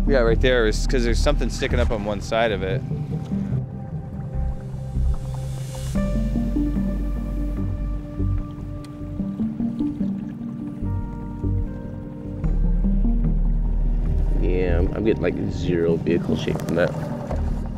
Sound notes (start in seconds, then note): 4.1 boat engine rumbling; 4.1 slow-tempo synth music